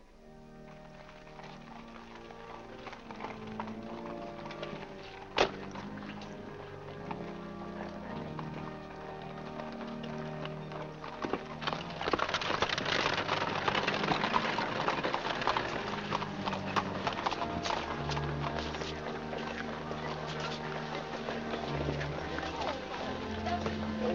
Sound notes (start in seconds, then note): 0.2 hooves trotting; 0.2 organ plays; 12.0 carriage rattles away; 12.0 organ plays; 15.5 hooves trotting; 15.5 organ plays; 18.9 indistinct conversation; 18.9 organ plays